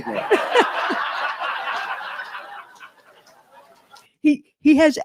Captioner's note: audience laughs and applauds